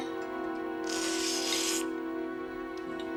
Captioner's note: slurping sound